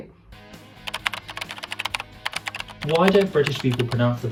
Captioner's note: keyboard clacking